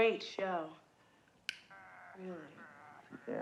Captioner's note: pops gum